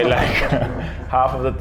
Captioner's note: laughing